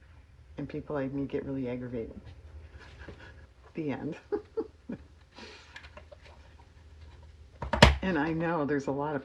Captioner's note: laughs